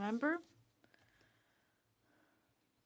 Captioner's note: speaking French